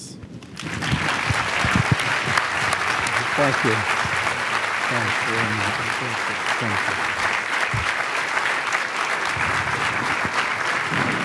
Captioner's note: applause